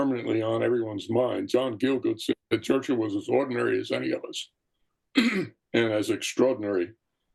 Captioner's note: cough